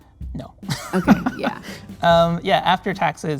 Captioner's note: laughing